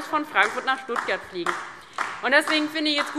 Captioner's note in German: Beifall DIE LINKE